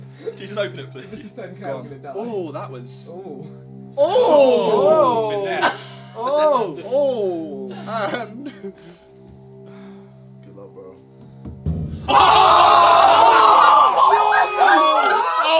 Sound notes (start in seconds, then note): 8.4 sighs; 11.2 drum beats; 12.0 all screaming